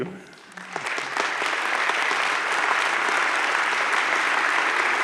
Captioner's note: audience claps